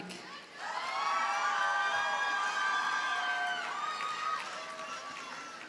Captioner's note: audience cheers and applauds